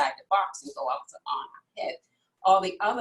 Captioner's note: faintly speaking